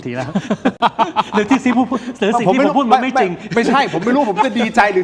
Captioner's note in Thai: เสียงหัวเราะ